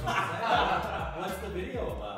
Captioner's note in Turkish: Gülüşmeler